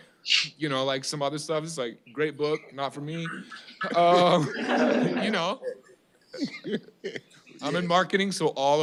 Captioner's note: laughter